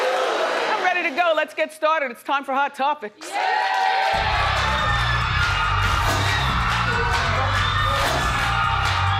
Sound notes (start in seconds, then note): 3.2 audience cheers; 3.3 audience applauds